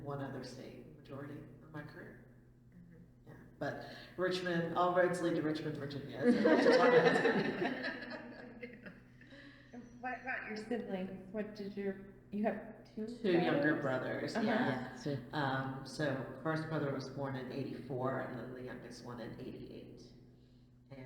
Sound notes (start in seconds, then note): 6.2 all laugh